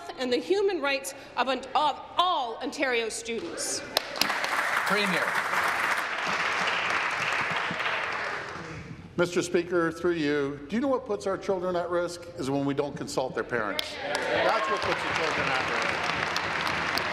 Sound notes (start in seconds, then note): 6.4 applause